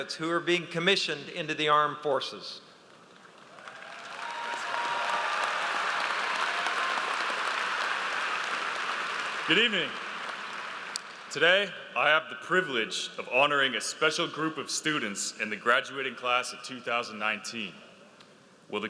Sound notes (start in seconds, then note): 3.2 audience applauds